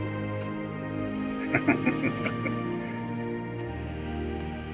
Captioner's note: chuckling